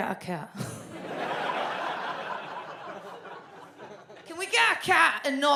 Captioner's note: audience laughs